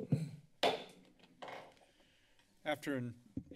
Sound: clears throat; hits gavel

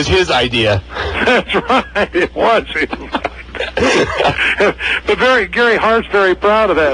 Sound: laughs

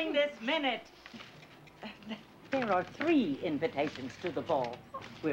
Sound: chuckles

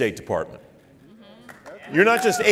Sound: applauding

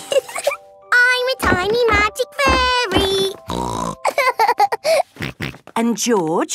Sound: snorting and giggling; snorting and laughing

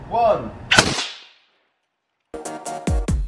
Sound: shoots air cannon; upbeat music

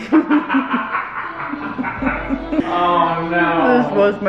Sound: all laugh

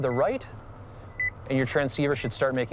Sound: beeps

